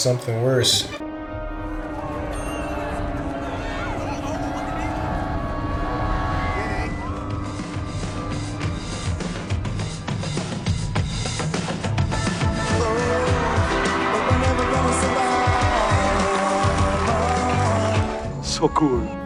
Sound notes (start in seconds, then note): 9.6 applause